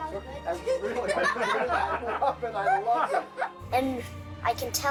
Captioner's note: all chuckling